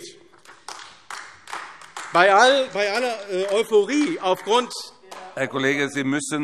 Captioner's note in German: Beifall AfD